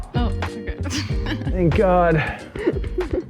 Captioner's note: laughs